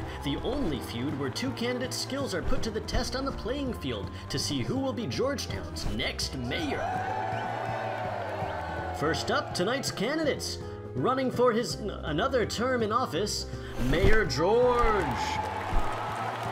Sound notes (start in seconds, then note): 6.5 crowd whooping and hollering; 14.0 crowd claps and cheers